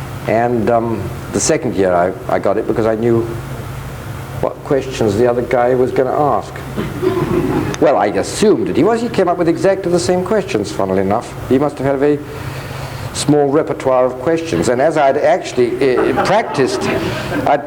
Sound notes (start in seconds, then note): 6.8 audience laughs